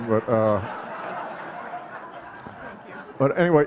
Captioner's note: audience laughing